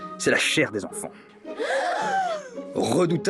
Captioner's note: children gasping